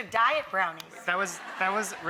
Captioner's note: audience laughs